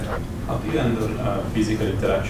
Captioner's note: man speaks with heavy accent